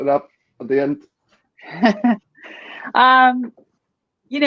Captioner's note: laughing